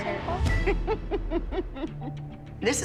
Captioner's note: laughs